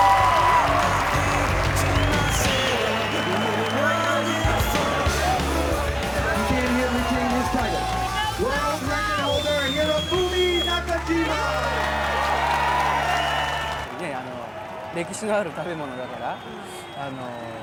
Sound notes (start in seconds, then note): 0.3 crowd cheering; 12.3 crowd cheering; 14.1 in foreign language